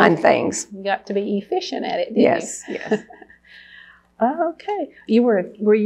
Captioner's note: laughs